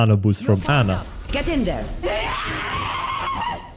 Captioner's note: angy noises